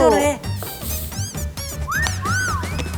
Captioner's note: sniff sniff